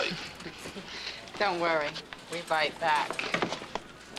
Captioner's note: chuckles